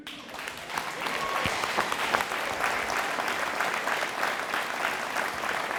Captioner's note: audience applauding